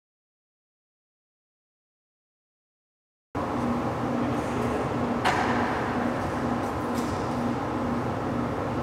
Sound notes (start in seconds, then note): 3.4 whirring; 5.2 clank